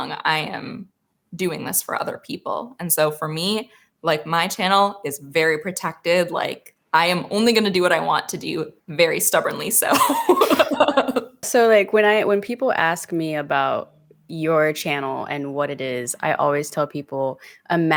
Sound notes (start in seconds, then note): 9.9 both laughing